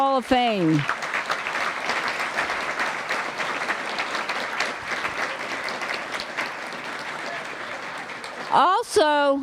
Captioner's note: applause